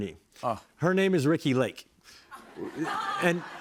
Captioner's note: laughter